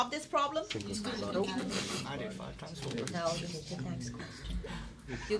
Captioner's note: students murmur